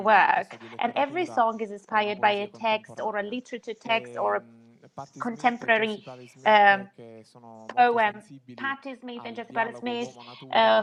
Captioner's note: laughs